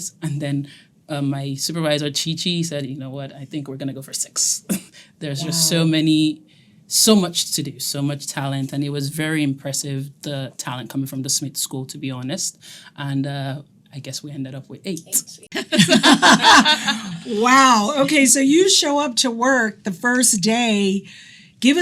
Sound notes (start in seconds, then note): 15.6 everyone laughing